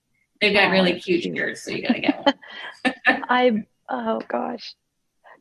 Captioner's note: laughs